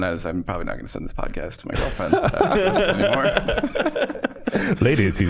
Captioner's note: all laughing